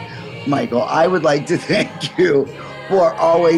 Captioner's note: chuckling